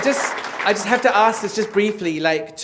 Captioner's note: applause